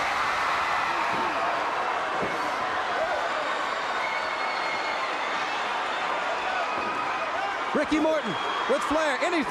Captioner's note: crowd cheering